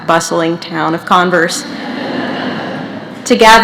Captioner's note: laughter